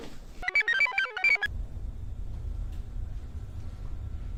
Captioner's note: computer chirps